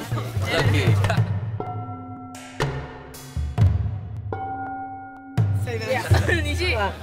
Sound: bells

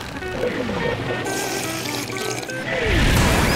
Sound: slurping; thudding

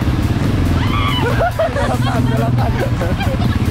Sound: chuckled; shout

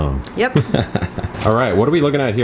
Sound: laughs

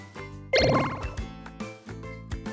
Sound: pinball bouncing sound

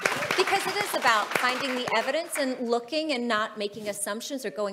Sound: audience applauding

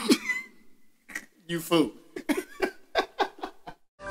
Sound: laughs

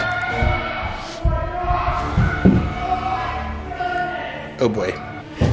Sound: screams from the background

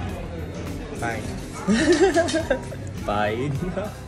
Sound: laughing

